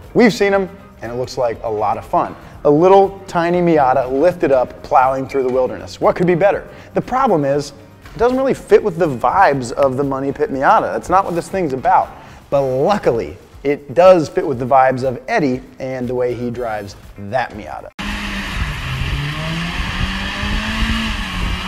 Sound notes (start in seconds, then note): 18.0 tires skid